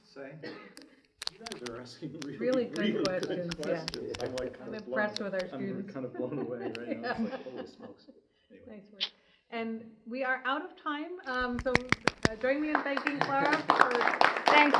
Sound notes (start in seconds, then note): 6.3 woman laughs; 12.0 audience applause